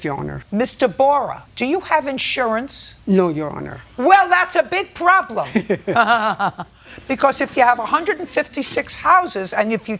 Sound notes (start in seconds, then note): 5.5 laughs; 7.1 laughs mockingly